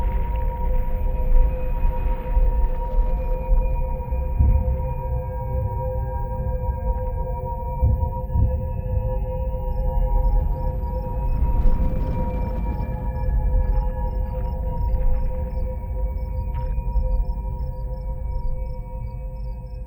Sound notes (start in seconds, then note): 11.0 crickets chirp; 11.0 tense music